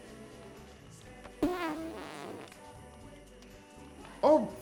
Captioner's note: upbeat music; Homer breaks wind